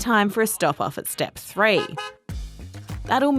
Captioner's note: honk-honk!